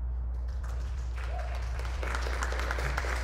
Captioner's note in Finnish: Aplodeja